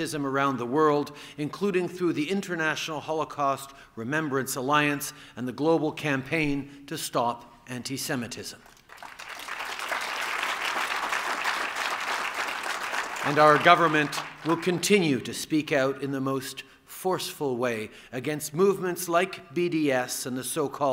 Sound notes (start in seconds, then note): 8.6 applause